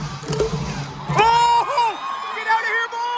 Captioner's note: chanting